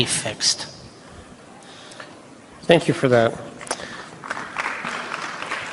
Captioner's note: applause